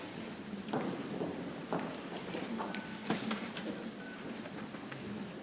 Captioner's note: people chattering softly